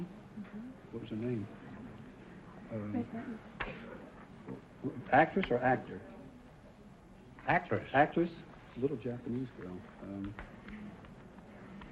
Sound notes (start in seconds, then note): 8.6 whispering